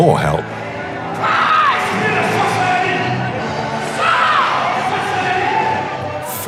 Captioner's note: foreign language